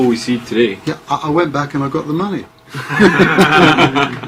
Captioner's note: laughs